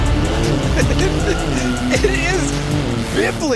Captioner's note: laughs